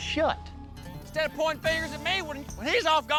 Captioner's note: angrily shouts